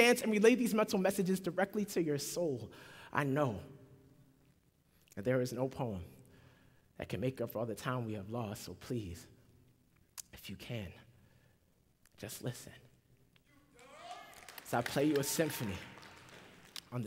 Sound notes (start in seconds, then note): 13.7 applause